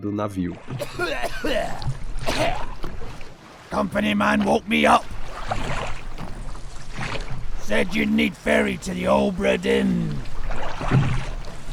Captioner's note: tide sound and a man's voice